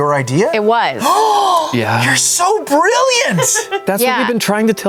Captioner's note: gasps